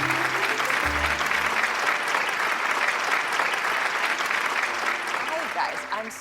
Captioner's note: audience clapping